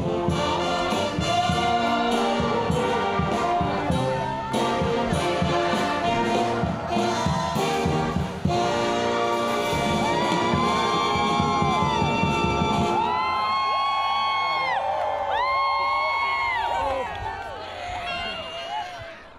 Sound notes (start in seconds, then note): 7.1 song ends; 12.6 cheers and applause